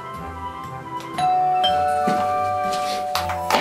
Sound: the sound of the doorbell ringing

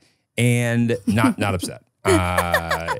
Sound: laughs

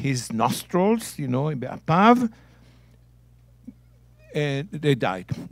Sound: speaking in Hebrew

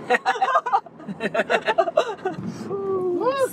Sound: laughter

